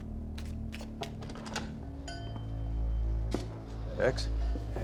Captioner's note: tapping, shuffling sound; door opens, doorbell clangs